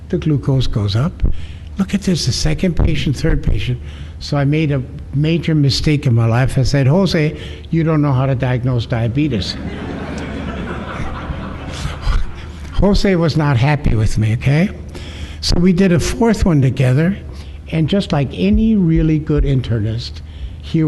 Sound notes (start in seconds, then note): 9.4 laughter